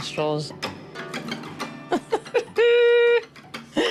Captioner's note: laughs